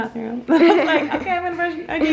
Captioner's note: laughs